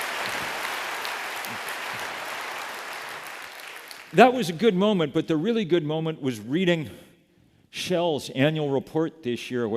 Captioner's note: applause